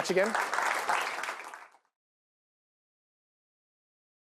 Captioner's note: applause